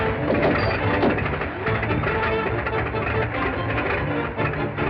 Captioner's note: metal clattering; body thuds